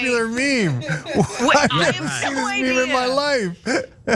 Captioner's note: laugh